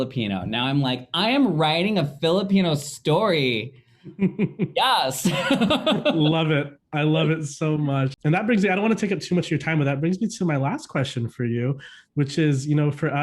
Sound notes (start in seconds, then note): 5.2 both laughing; 5.2 laughing